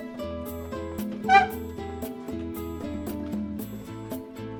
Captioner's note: chair squeaks